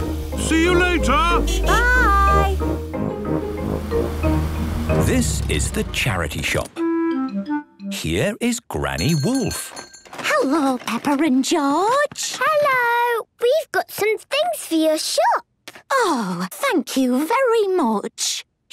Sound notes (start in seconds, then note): 1.6 honking; 8.9 bell jingling